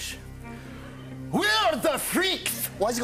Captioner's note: Scottish accent; normal voice